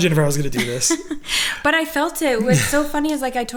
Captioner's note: laughing